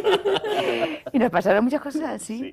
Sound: risas

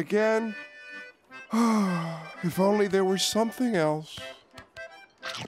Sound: sighs

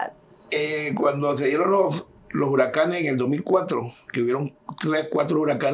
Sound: speaking in Spanish

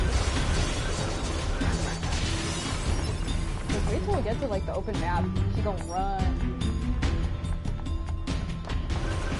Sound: laughs

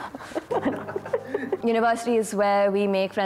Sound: they laugh

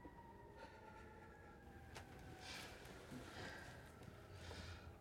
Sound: sirens wailing

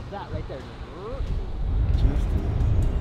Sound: mimics truck sound

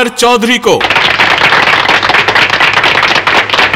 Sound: applause

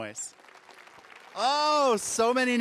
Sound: audience applauding

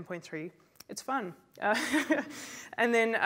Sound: laughs

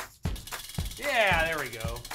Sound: energetic music; wheel clicking

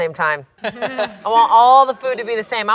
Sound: laughs

